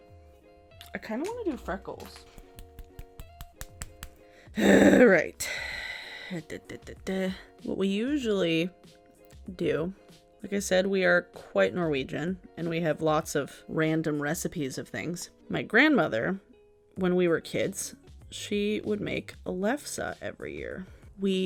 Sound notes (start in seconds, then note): 2.1 tapping; 4.5 roaring